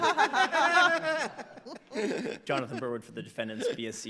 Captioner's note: everyone laughs